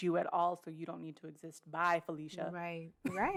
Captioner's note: laughs